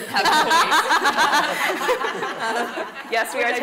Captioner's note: laughing